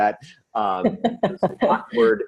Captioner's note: laughs